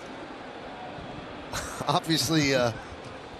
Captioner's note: laughter